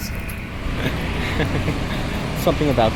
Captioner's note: laughs